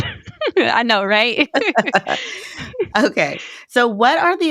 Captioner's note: both giggling